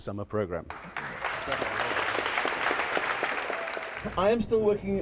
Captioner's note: audience applauds